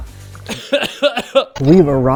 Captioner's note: coughing; laughs